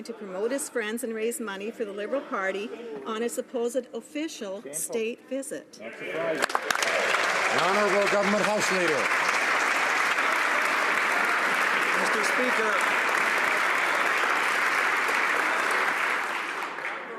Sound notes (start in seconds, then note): 9.1 some Applause